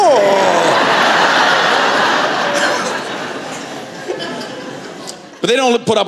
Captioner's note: laughter